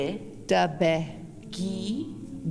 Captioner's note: In Mi’kmaq